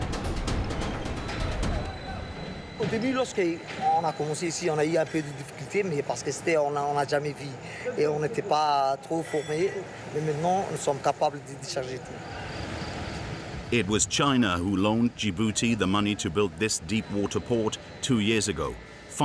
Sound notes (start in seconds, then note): 3.0 speaking foreign language